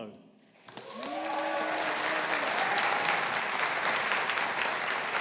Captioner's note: audience applauding